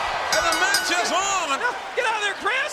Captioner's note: bell rings